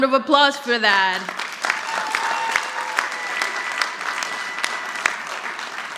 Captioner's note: audience applauding